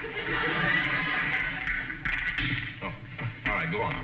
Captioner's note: audience laughing